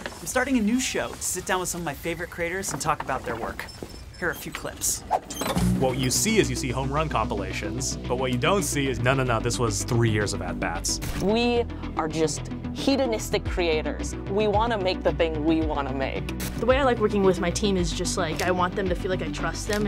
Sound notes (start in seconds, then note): 3.5 digital beeps